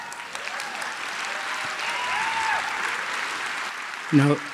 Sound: applause

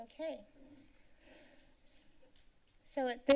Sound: rustling Sound

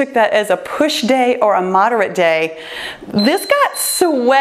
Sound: timer beeps

